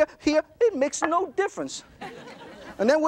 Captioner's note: audience laughter